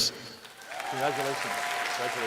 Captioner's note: applause